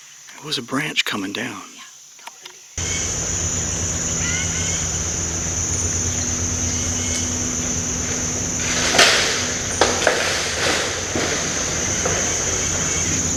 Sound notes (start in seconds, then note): 4.1 very loud birds and bugs chirping; 9.4 loud crashing through trees